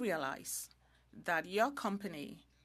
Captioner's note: speaking French